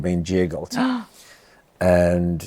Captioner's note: gasps